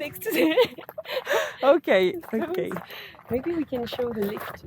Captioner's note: laughts